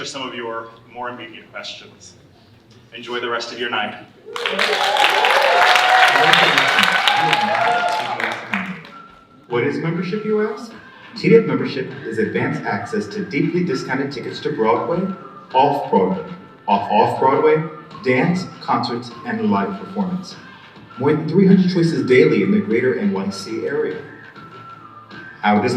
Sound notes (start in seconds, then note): 4.3 audience cheering and applauding drowns out speaker